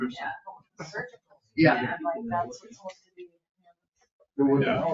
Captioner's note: people chattering